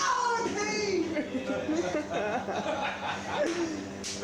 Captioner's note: soldiers laughing